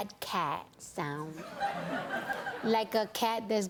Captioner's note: laughter